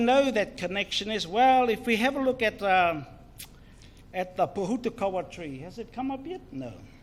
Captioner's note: foreign Language